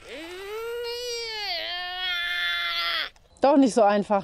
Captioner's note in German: Emma macht angestrengtes Geräusch